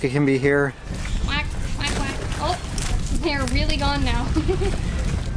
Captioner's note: imitating a duck; laughter